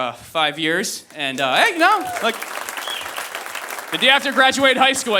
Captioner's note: audience applauding